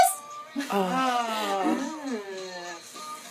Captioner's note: groans